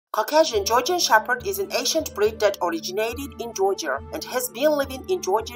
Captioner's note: Georgian